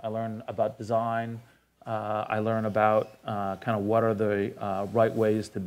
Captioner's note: none